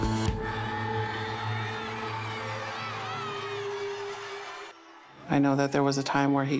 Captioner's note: applause